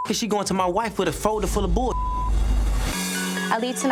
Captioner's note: beep